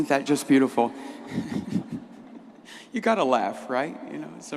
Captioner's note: laughs